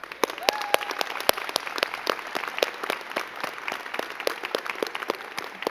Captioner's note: crowd cheering and clapping